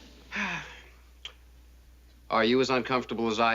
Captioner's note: sighing; clearing throat